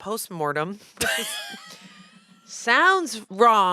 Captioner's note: laughs